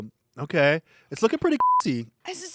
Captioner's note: beep